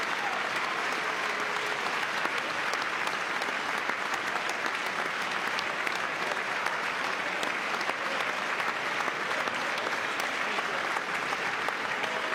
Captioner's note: applause; cheering